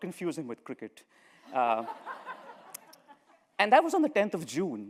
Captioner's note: laughter